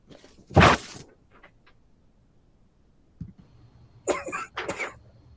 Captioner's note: paper rustling; coughs